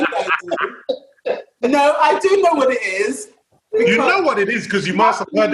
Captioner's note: laughs